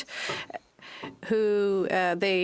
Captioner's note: speaking French